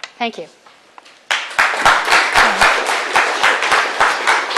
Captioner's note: applause